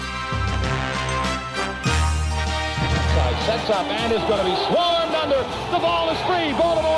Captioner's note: applause